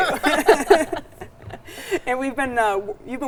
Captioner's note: all chuckles